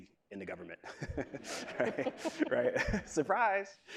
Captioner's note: laughs